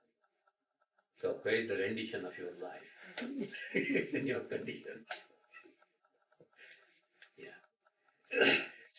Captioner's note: laughter